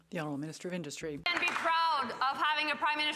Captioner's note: some Applause